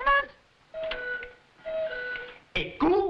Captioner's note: cuckoo clock chiming